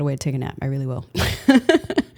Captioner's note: laughs